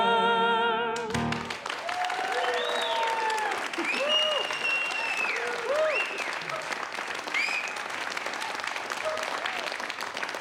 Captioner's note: loud applause